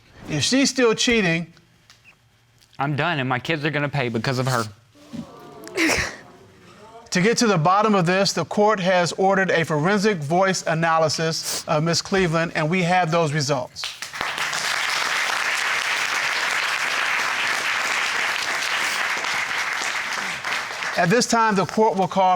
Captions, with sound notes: If she's still cheating, I'm done, and my kids are gonna pay because of her. (SOBBING) To get to the bottom of this, the court has ordered a forensic voice analysis of Ms. Cleveland, and we have those results. (APPLAUDING) At this time, the court will call